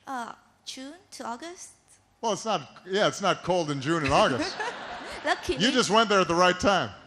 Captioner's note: laughter